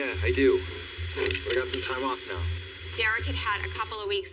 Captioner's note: honking horn